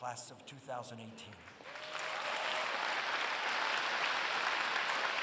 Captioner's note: applause